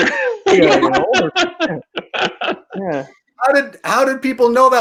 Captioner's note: laughing